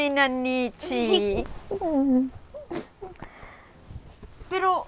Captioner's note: Ana chuckling